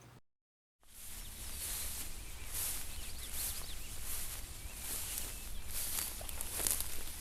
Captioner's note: birds chirping; underbrush crunching